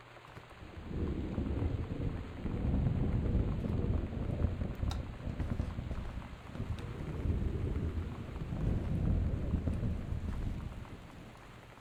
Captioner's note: thunder